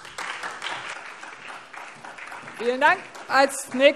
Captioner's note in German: Beifall SPD